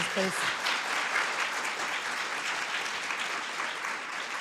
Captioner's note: applause